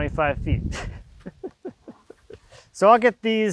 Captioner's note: laughs